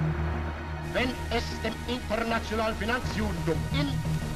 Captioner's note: Hitler speaking German